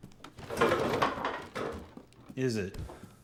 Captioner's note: chair clattering